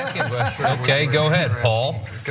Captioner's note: laugh